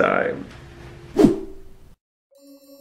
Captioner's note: swoosh